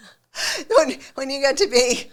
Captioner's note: laughing